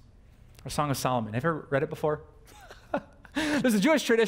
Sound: pastor: Laughter

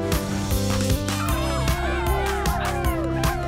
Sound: cheering

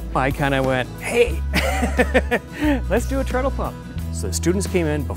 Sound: laughs

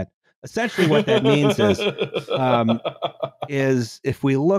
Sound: laughs ebulliently

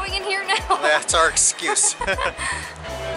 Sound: laughter

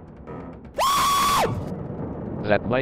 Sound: screams of a genius

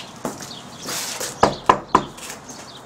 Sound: knock

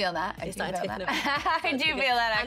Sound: laughs

